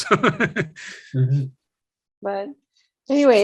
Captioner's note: laughs